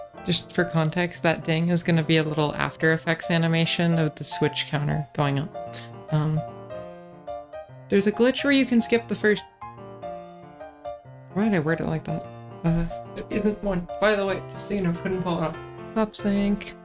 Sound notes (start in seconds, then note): 5.7 breath